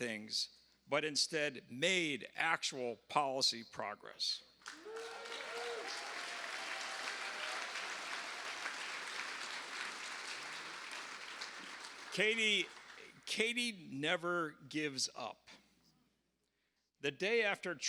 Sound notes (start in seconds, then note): 11.7 applause